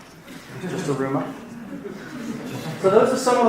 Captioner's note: laughing